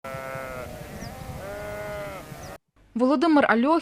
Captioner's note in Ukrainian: Бекають вівці